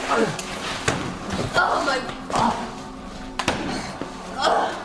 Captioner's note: Dimitri and Danny moan